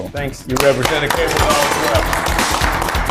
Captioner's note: all applaud